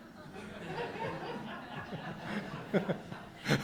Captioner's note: audience laughs